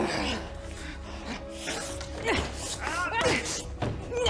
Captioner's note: grunting in pain